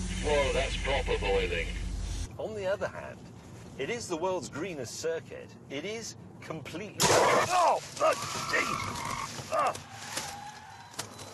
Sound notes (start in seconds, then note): 7.2 splashing; 7.7 brakes squealing